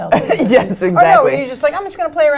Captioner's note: laugh